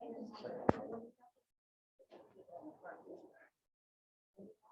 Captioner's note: attendees chattering